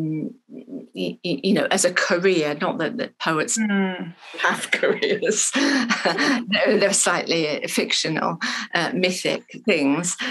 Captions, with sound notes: you know, as a career. Not that poets have careers. (laughs) No, they're slightly fictional, mythic things